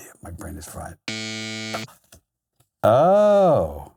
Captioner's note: loud buzzer